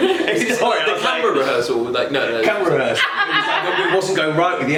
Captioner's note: laughs